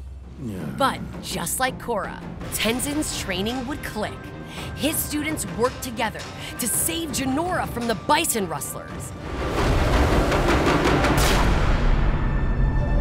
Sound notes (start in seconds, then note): none